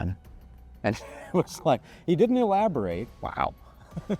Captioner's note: laughs